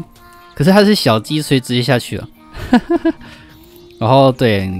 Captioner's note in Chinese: 苦笑